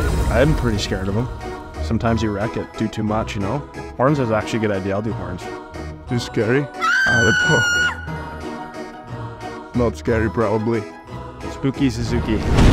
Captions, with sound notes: I am pretty scared of him. Sometimes your wreck it, do too much, you know? Horns is actually a good idea. I'll do horns. Is he scary? I hope. [scream] Not scary, probably. Spooky Suzuki.